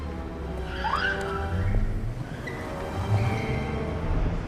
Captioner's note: sirens beeping